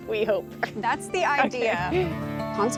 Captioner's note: laughing